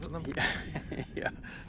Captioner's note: laughing